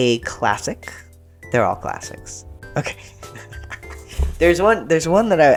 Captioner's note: laughter